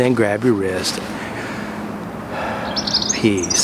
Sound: deep breath

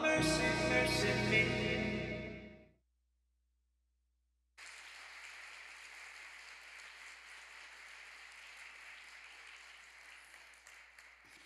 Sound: applause

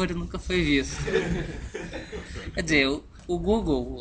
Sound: laughs

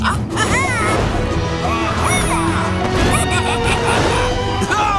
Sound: squawking

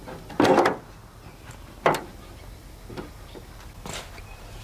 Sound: sifter thuds

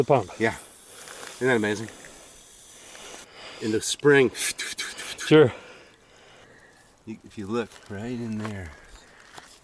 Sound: pump sounds

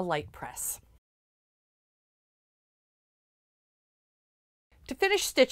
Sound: no Sound Present

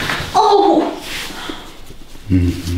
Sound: the girl screams after massage

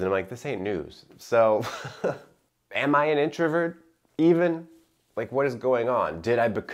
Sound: chuckling

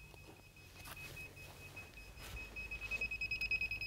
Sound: machine beeping

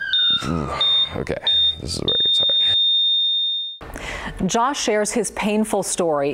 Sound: siren blaring

